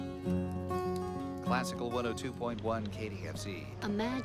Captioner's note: voiceover